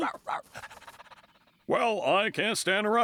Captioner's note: panting